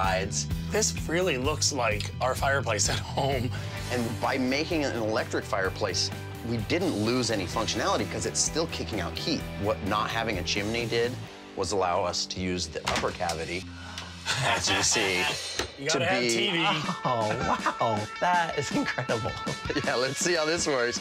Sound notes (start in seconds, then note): 14.2 laughter